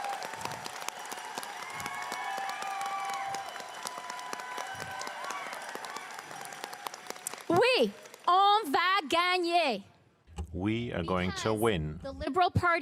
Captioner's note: cheering and applause